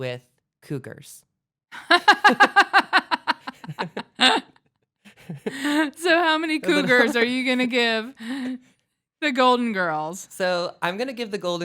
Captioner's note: laughs